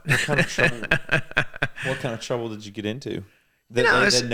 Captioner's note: laughing